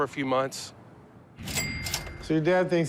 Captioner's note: cash register rings